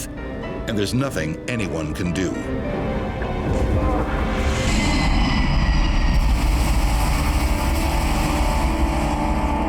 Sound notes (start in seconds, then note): 2.6 plane engine roaring